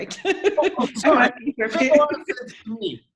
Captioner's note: both laughing; audio warbles